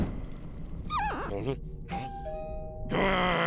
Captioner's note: electricity zapping; whoosh; squeak; doorbell